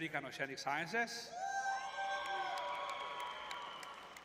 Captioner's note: crowd cheering